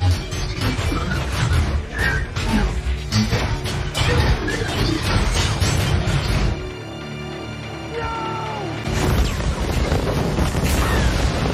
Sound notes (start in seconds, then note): 2.2 metal clanging; 8.9 explosion